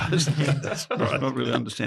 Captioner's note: laughs